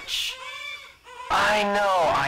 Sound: distant baby crying

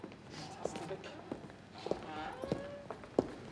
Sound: murmur

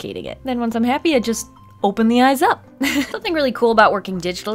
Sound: laughs

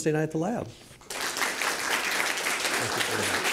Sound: applause

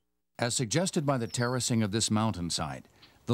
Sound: voiceover

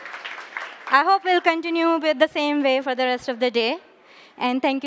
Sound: applause

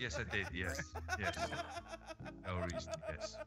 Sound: laugh

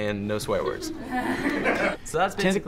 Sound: laughing

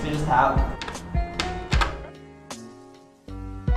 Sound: lock noises

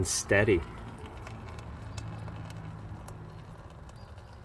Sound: fuel flowing

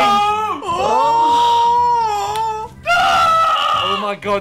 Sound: group oohing

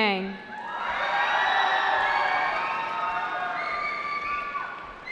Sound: cheering

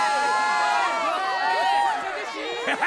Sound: all cheering

